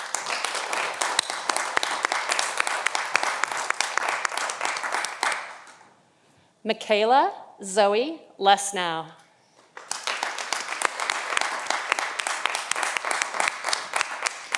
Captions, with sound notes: Mikaela Zoe Lessnau. (audience applauding)